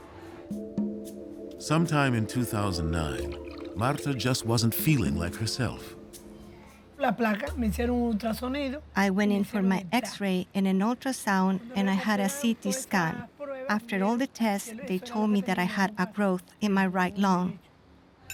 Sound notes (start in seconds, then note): 6.6 speaking Spanish